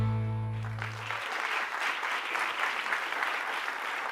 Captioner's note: applause